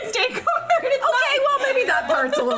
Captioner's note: laughing